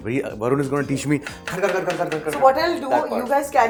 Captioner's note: chopping noise